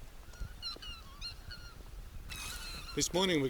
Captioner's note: swans bugling